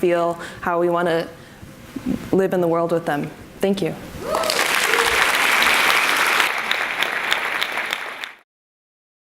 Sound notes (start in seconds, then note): 4.2 audience applauds and cheers